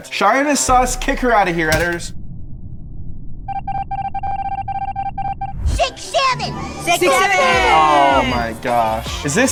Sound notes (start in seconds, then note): 5.8 text trilling